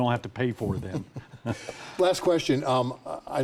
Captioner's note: both laugh